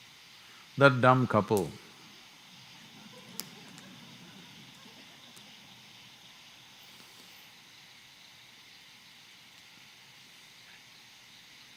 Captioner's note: few laugh